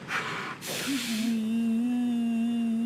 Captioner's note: mimics horn blowing